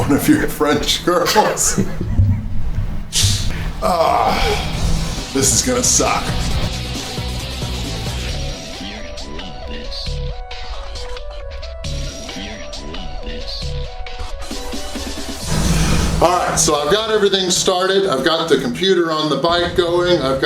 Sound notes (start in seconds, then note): 3.1 laughs; 3.7 grunts; 7.0 energetic rock music